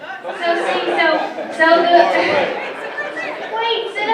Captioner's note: audience laughing